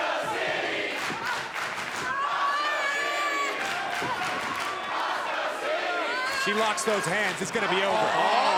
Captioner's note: crowd cheering